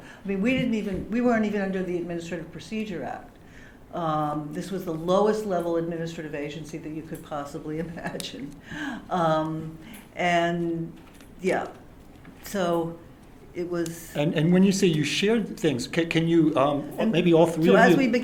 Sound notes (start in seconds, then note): 7.7 laughter